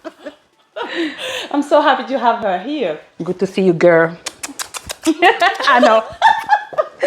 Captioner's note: kisses